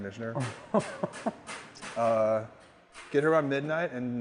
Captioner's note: laughing